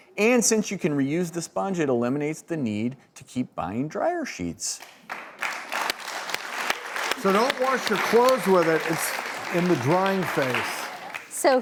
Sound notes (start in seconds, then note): 4.8 applause